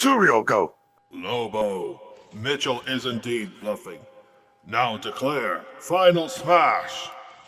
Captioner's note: telepathic Voice